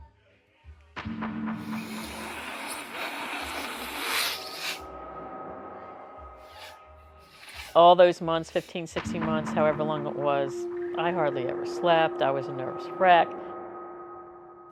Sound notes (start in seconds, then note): 1.7 sniffs